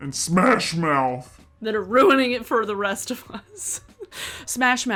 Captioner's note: laughs